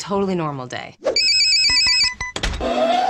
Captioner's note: alarm rings; dryer beeping